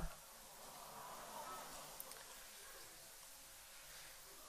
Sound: audience murmuring

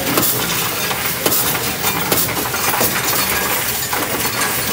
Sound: coins rattling

